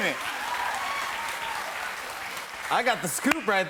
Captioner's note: cheers and applause continue